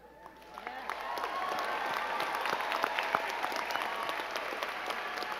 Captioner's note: crowd clapping and cheering